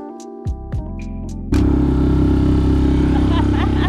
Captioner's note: engine sound